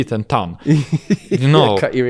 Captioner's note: laughs